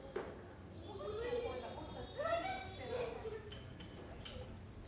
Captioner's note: children chattering